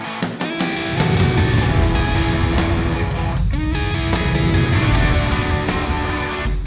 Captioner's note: rock music; flames roaring